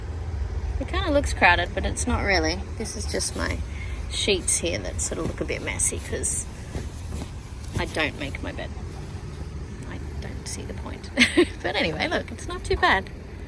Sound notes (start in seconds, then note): 6.7 bedding rustles; 10.8 scoffs